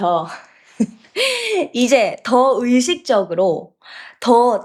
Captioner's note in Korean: 웃음